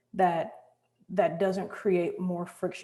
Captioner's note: none